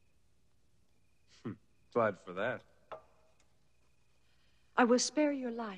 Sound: chuckling

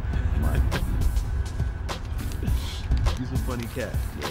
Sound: laughing

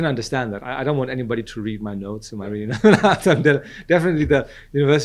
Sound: laughs

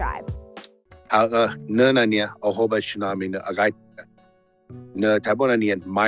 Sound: speaking in paiute

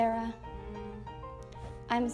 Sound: exhausted moan

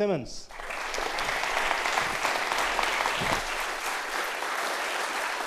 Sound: applause

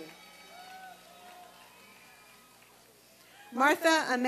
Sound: applause and cheering

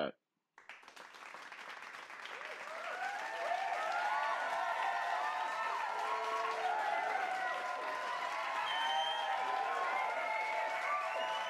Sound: crowd cheering and clapping

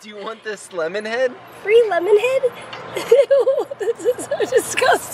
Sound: laughs

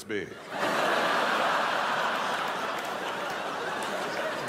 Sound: crowd laughs

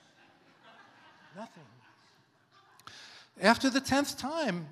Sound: congregation laughs

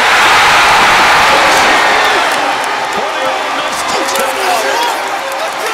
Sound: crowd cheering

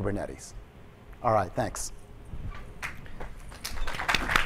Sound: applause

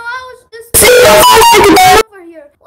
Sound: loud samsung notification sound

